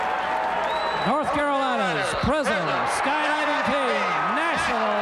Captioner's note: crowd cheering